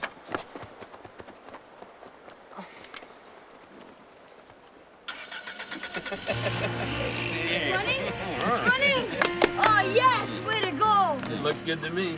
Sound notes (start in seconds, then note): 5.1 car starting